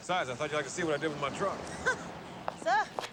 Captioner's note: chuckles